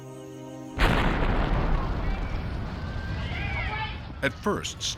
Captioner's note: loud explosion, people screaming; sirens blaring